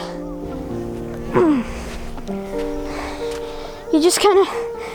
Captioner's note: grunts